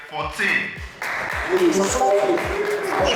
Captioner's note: clapping